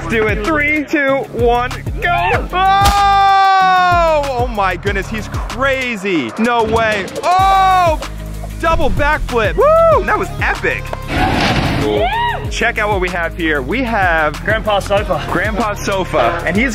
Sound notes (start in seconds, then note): 11.8 screams